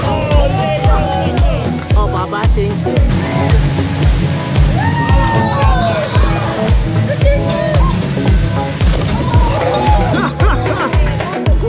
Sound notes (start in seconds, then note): 3.0 crowd cheering